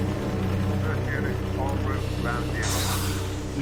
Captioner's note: man over radio